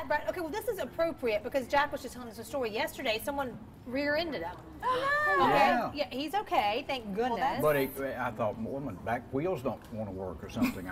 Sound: laughter

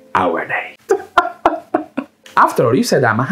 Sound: laughs

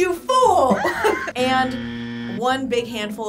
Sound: buzzer buzzing

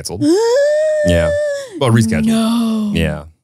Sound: exclaiming

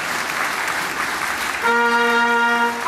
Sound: applause

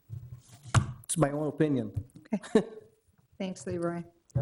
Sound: chuckles

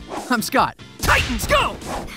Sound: whip cracks

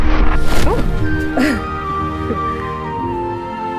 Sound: laughs; light melodic music

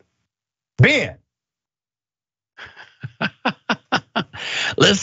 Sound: laugh

